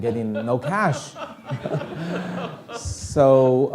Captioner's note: audience laughing